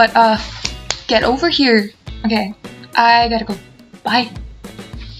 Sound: clapping

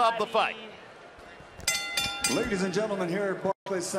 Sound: bell rings

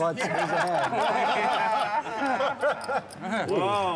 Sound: laughing

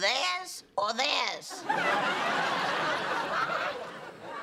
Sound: laughter

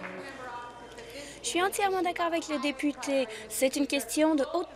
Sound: applause

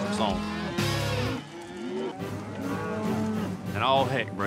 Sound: mooing

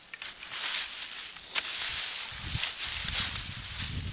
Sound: leaves rustling

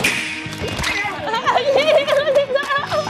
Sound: laughing+Running away

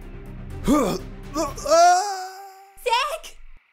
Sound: intense music; yelling

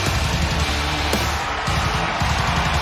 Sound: cheers and applause

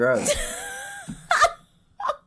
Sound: laughs

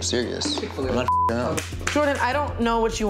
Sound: beeps

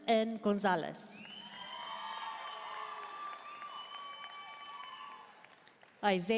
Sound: audience cheering and applauding

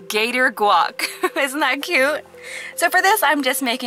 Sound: laughing

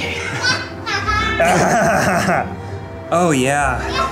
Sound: kids laughing; Ned laughs

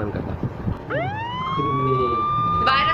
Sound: police sirens screaming

